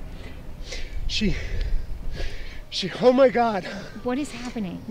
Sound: breathes heavily

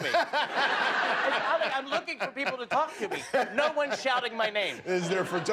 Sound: laughter

